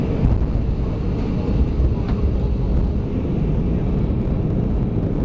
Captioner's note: plane touching down